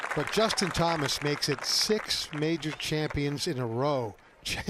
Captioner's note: applause